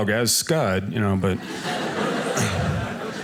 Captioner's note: audience laughing